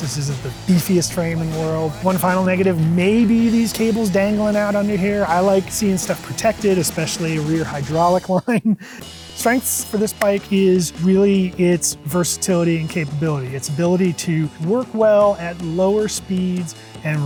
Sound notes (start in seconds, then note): 8.2 laughs